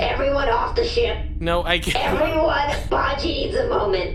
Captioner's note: half-laughing